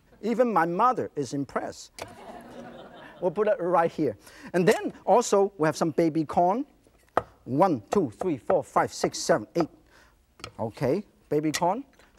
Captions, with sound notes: Even my mother is impressed. (audience laughter) We'll put it right here. And then also we have some baby corn. 1, 2, 3, 4, 5, 6, 7, 8. Okay, baby corn.